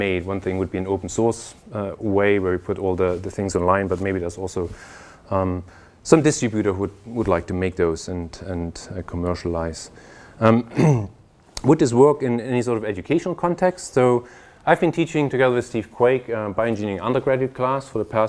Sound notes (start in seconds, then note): 10.6 cough